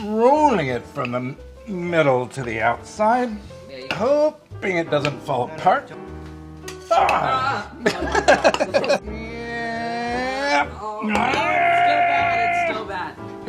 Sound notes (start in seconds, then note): 6.8 groaning; 7.8 laughing; 11.0 groaning